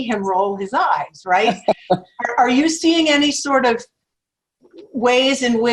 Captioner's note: laugh